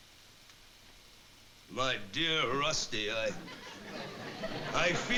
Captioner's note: impersonating orson welles